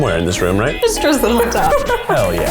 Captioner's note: laughs; quirky music